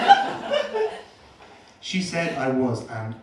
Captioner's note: laughter